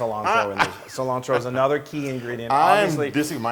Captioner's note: laugh